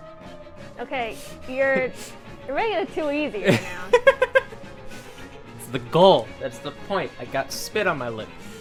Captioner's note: laughs